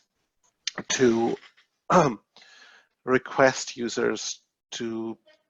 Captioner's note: clearing throat